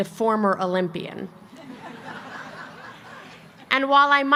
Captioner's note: laughter